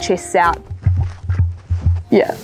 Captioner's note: emu booming